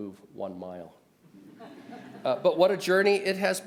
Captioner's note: audience laughs